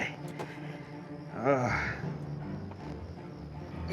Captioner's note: moan